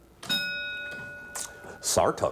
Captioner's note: ding